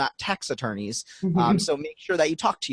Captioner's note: laughing